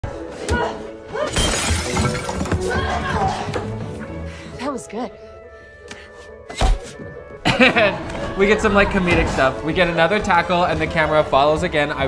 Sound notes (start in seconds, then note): 1.2 vase shattering; 6.7 thud; 7.4 laughter